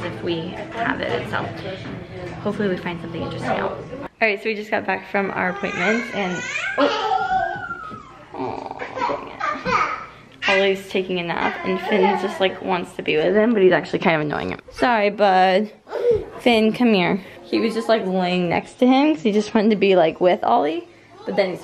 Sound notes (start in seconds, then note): 5.4 crying